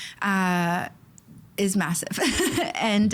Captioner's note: chuckling